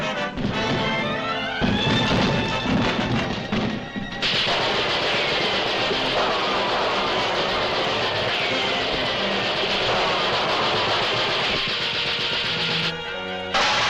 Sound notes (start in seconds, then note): 4.3 guns popping